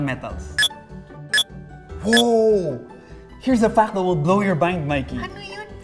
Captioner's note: Mind-blower beeps